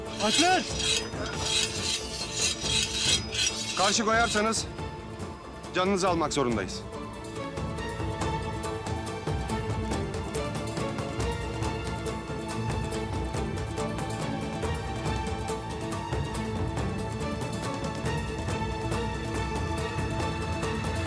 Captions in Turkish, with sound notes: Alpler! (Kılıç çekme sesleri) Karşı koyarsanız canınızı almak zorundayız. (Müzik - Gerilim)